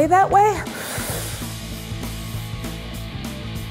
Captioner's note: inhaling deeply; upbeat music